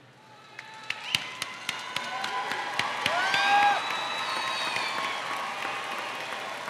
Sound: audience cheering; audience applauding

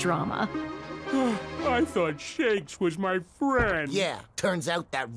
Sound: sighing

